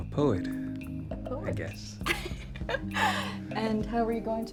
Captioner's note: laughs